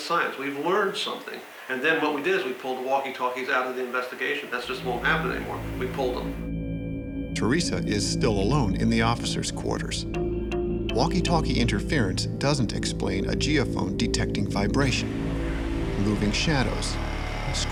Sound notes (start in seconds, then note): 7.1 voiceover